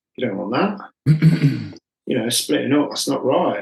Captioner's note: clears throat